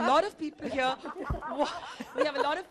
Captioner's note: laughter